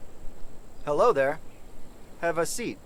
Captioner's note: robotic tone